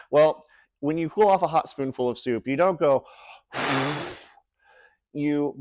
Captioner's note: impression of forceful exhaled stream of air